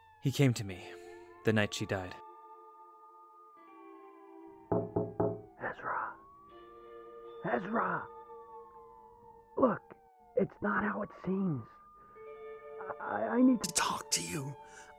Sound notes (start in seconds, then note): 4.7 knocking on window